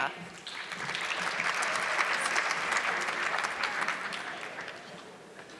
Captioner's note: audience clapping